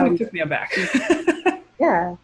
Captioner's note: laughing